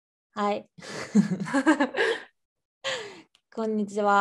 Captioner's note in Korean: 웃음